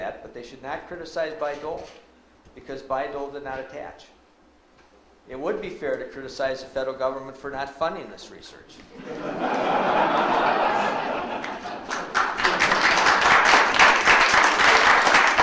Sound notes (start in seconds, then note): 8.9 audience laughs; 12.2 audience applauds